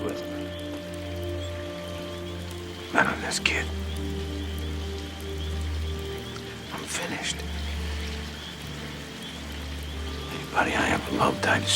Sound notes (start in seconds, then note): none